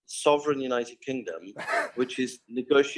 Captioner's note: laughs